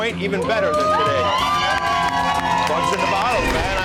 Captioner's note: cheering